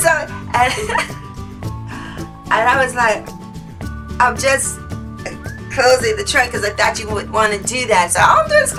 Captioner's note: laughs